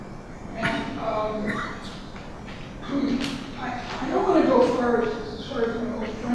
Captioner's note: coughing drowns out speaker